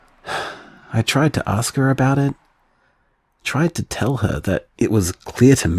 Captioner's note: none